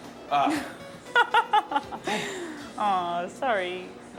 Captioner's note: laughs